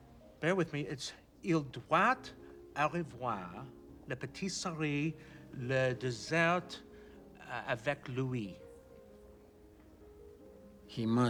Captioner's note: speaking French